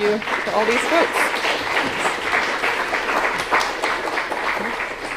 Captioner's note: applause